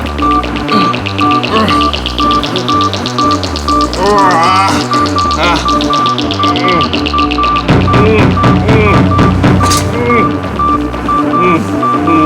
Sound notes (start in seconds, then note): 0.1 groaning; 7.6 loud pounding